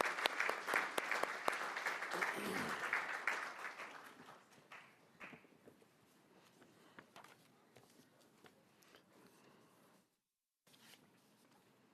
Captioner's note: applause